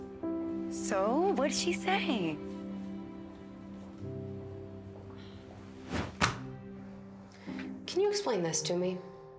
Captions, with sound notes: So? What'd she say? (sighs) - Can you explain this to me?